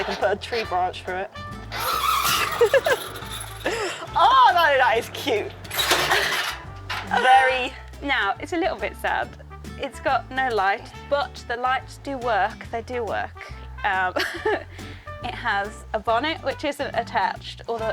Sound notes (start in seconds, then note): 2.2 laughs